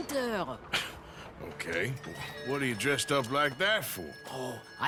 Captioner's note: chuckles